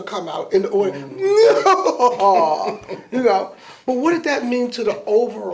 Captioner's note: imitates “mwahaha” laugh and claps